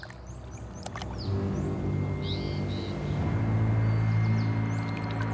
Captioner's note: birds chirping; suspenseful music